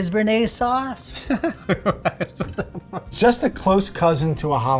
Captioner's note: laughing